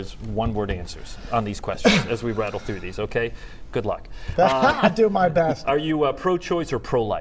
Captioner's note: laughter